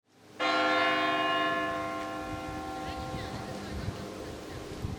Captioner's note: church bell ringing